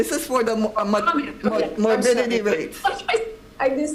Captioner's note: overlapping chatter